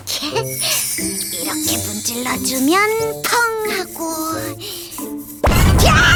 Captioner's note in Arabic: صوت الانفجار